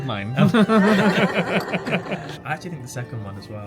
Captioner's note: all laugh